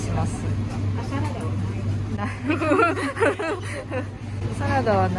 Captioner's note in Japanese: 笑い